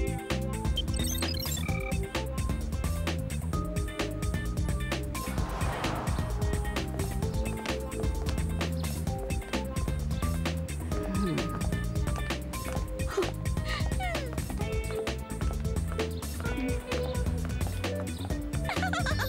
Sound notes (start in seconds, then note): 13.6 gasps; 18.5 laughs